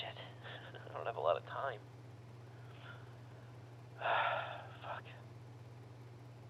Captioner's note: sighs